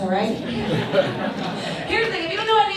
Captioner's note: audience laughs